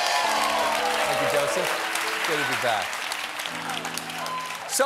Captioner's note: cheers and applause